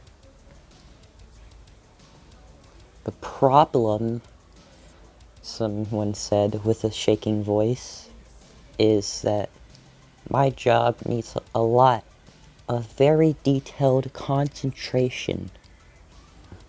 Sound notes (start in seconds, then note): 4.2 said with a shaking voice